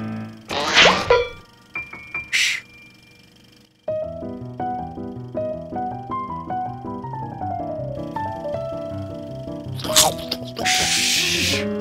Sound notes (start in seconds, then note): 9.8 chomping